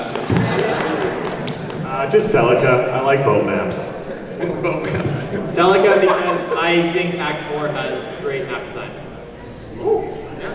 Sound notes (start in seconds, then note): 0.0 claps; 4.3 laughing